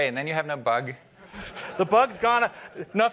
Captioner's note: laughter